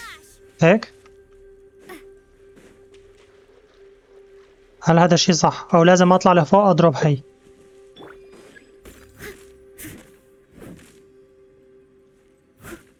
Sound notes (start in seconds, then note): 1.8 grunts; 4.1 yelps; 10.1 gentle music